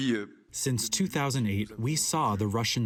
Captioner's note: through translator